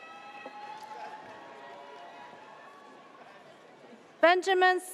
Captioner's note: audience cheers